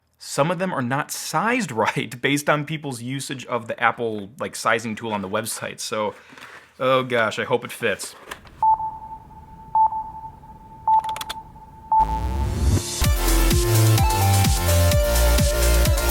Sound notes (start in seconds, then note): 8.6 beep; 12.0 bright upbeat music